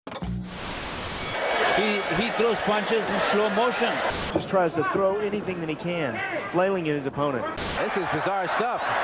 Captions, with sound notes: (tv static) (boxing bell rings) - He throws punches in slow motion. - He tries to throw anything that he can, flailing at his opponent. - This is bizarre stuff.